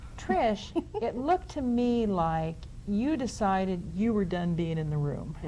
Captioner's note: laughs